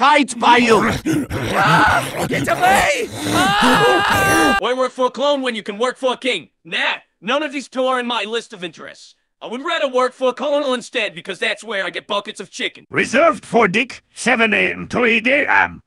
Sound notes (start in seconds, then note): 0.3 obligatory zombie noises; 4.2 schreit entsetzt